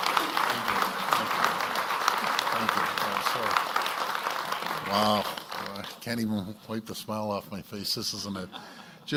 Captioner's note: applause